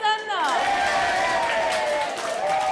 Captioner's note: clapping; cheering; clapping